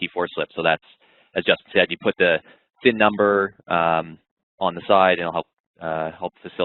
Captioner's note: voice muffled